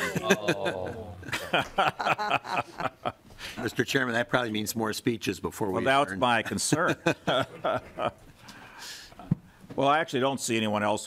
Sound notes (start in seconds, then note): 0.0 laughing